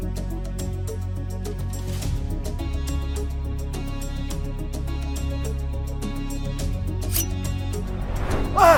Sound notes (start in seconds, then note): 3.7 suspenseful music continues; 7.1 metal dinging